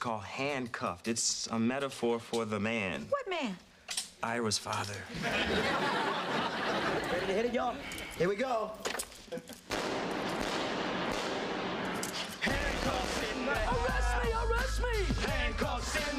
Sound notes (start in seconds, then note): 9.6 gunshots